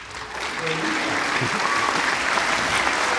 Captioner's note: applause